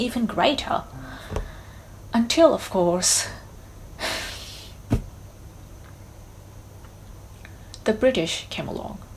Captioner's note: sighs